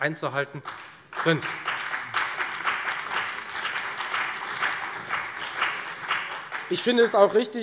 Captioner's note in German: Beifall Freie Demokraten, BÜNDNIS 90/DIE GRÜNEN und vereinzelt CDU